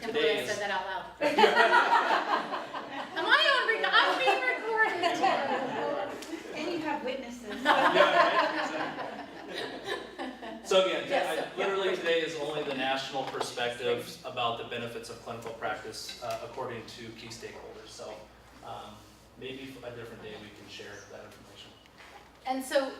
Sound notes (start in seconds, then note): 1.2 both laugh; 7.4 laughs